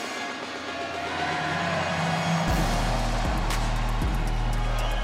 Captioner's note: upbeat music; crowd cheer